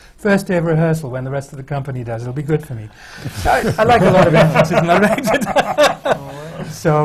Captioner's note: laughter